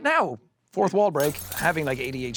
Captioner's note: glass shattering